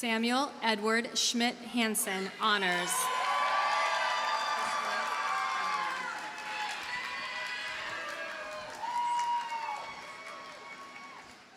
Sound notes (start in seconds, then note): 3.0 audience cheers and applauds